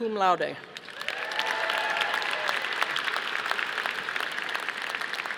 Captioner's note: audience applauding